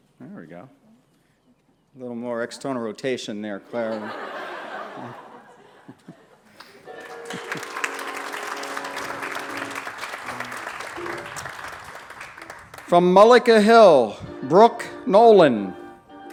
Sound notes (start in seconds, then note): 3.7 laughter; 6.8 applause